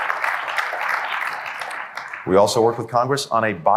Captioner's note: applause